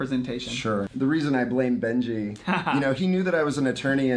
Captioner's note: chuckling